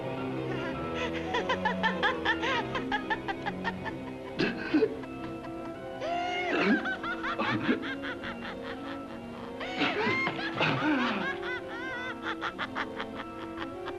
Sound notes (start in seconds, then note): 0.0 ominous music; 0.4 Jan laughs